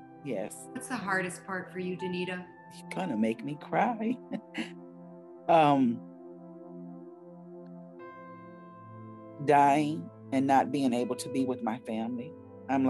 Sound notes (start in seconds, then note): 3.8 chuckles; 7.1 soft music